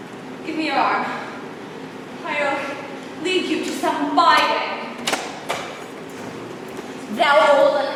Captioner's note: door opens offscreen